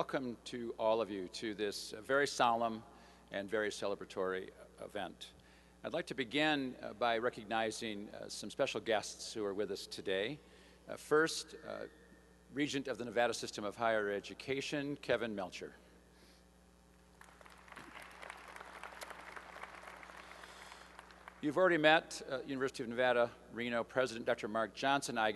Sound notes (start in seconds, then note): 17.1 applause